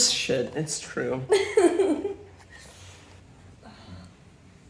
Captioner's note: Sophie giggling